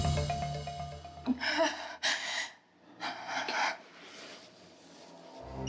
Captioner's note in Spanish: Sollozos